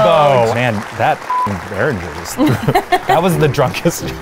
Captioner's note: beeps